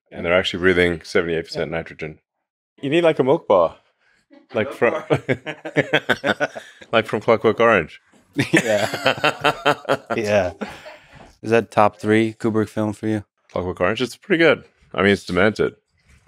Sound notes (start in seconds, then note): 4.5 Elon laughing; 8.3 laughs